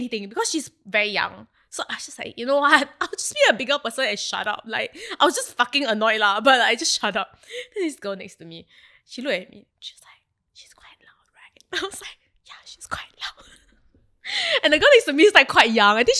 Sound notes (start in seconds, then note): 10.6 whispers: she's quite loud right